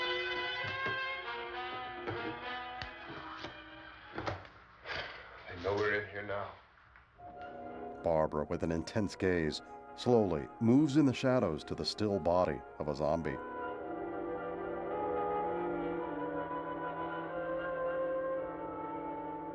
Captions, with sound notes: [exhales deeply] They know we're in here now.